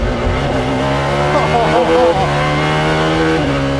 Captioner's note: laughs